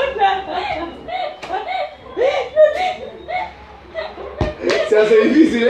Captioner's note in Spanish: Risas